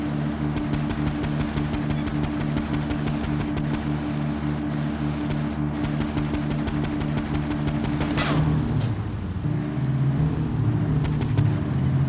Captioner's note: siren wailing